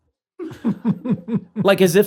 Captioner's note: laughter